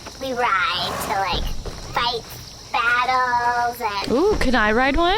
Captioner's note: assorted horse noises